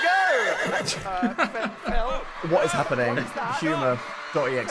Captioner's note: horse neighing; chuckling